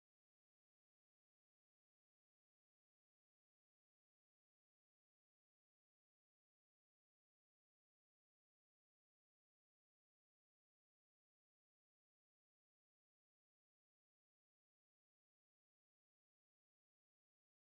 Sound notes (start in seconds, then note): none